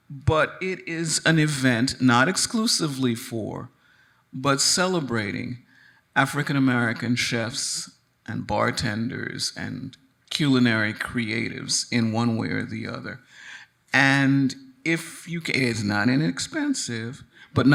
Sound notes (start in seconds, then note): none